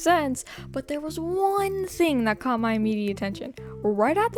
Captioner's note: inhale